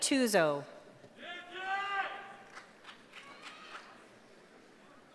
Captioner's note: cheering